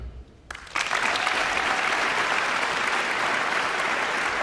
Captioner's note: guests applauding